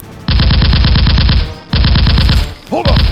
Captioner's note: gunfire rattling